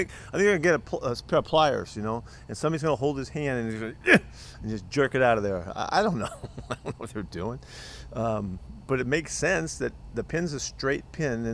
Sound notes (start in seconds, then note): 4.4 grunts; 6.1 laughter